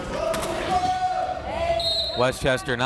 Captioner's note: crowd members shouting; whistle tweeting